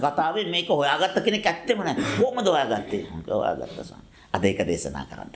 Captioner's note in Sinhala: උගුර කෑරීම